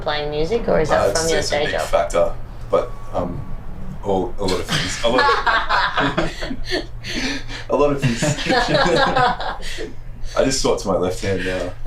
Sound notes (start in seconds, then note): 4.4 others laugh; 9.1 laughs